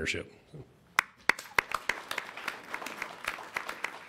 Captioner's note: applause